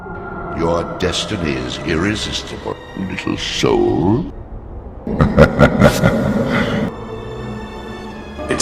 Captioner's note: laughter